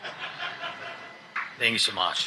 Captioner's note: audience laughing